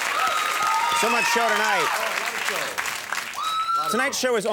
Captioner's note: audience applauds